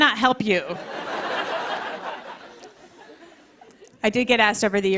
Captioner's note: laughter